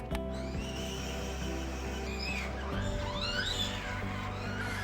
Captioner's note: mini automatic vehicle moving